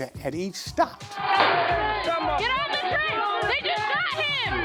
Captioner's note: people shouting